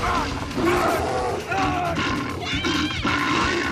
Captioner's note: bear growling; man groaning